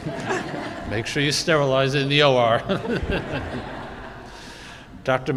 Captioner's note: group laughing